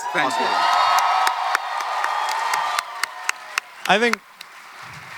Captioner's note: audience and panel clapping; audience cheering